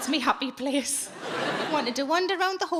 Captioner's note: audience laughing